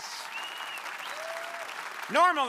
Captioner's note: crowd applauding